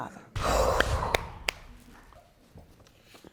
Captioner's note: exhales